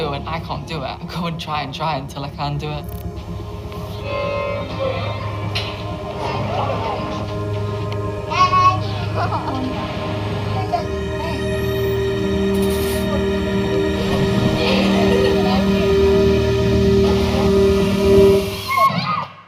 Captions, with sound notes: and I can't do it, I go and try and try until I can do it. (instrument playing) (yelps) (laughs)